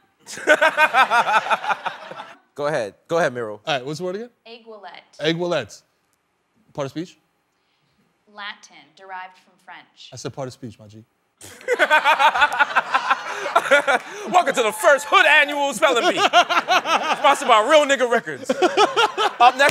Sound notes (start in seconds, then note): 0.2 laughter; 11.4 laughter